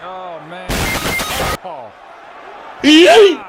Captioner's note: Fortnite Teammate Knocked Down Sound